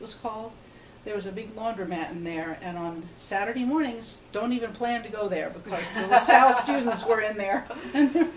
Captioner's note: both laugh